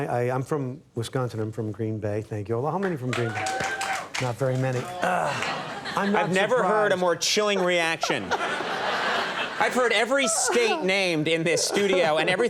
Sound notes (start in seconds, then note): 2.8 audience clapping; 8.4 audience laughing